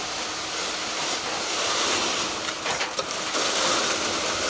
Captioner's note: cement pumping